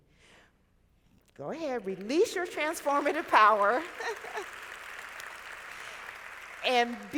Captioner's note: laughing